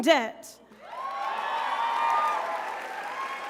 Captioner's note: crowd cheers